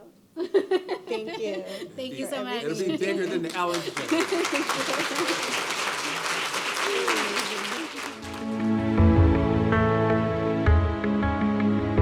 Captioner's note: applause